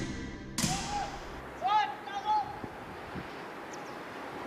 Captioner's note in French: un homme crie